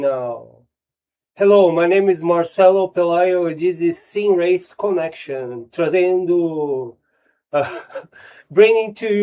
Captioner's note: laughs